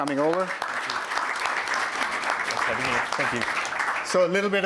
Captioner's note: applause